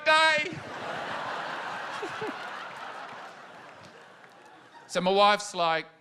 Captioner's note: laughter